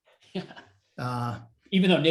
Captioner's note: chuckles